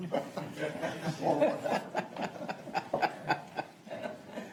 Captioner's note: laughs